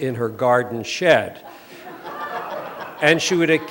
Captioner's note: laughter